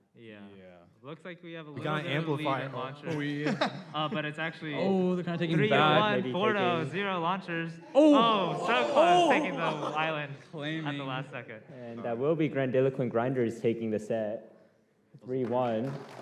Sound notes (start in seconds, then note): 7.9 people exclaiming